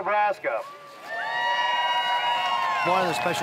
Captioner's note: cheering